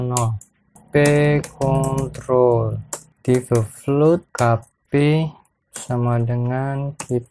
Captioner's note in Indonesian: typing code